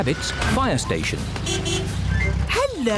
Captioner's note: horn honks